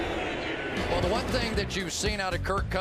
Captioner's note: swoosh